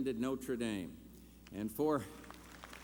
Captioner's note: applause